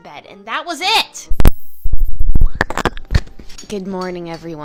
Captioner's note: overly-personal mouth noises